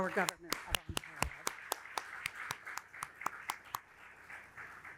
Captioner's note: audience applauding